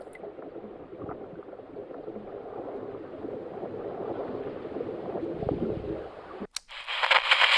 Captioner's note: underwater Sound